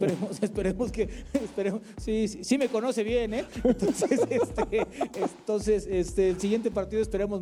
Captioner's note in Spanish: risas